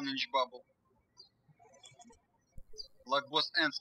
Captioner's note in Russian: птички щебечут